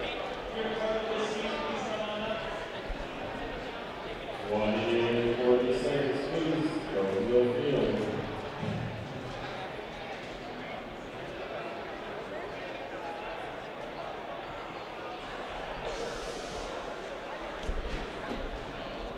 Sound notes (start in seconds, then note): 10.9 crowd chats in background